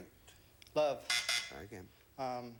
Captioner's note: buzzer sounds